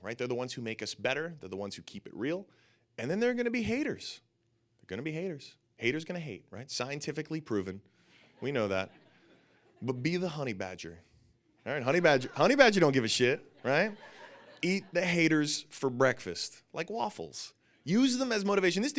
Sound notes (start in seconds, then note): 8.2 audience laughing; 14.1 audience laughing